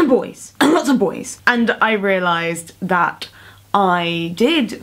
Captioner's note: coughs